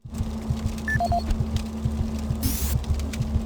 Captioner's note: beeping